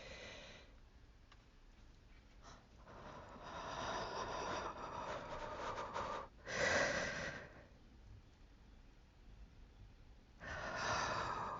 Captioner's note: heavy, shakey breathing